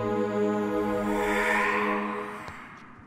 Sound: faint breath

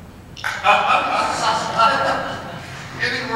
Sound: laughs

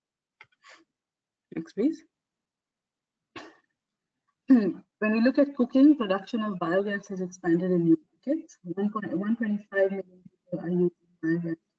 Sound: audio static

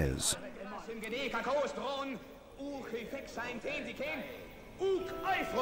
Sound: men speaking in Greek

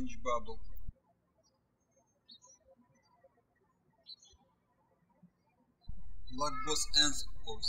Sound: birds chirping

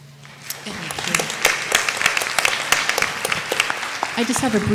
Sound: applause

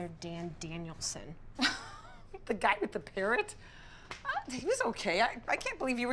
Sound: giggling

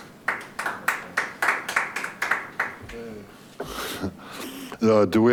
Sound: people applauding quietly

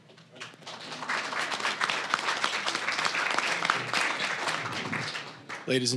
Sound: applause

